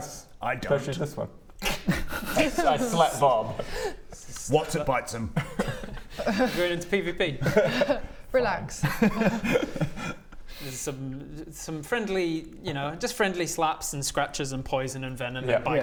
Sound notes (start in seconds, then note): 1.5 twack!; 8.8 giggles